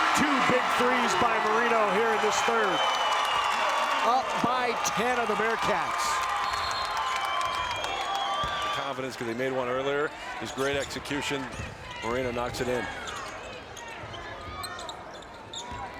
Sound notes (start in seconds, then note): 0.0 crowd cheers; 6.4 whistle blows